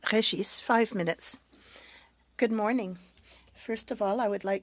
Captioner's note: speaking French